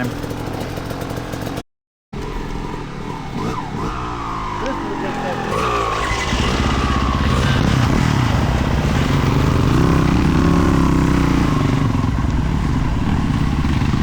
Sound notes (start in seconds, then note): 6.1 engine revving